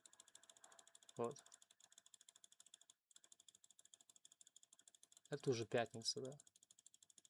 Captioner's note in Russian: none